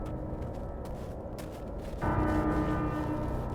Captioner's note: howling wind